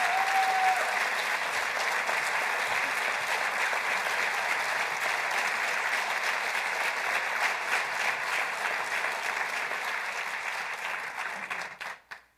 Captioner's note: applause